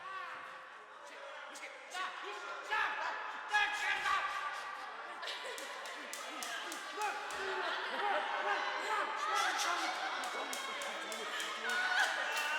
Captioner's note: background bedlam of the insane asylum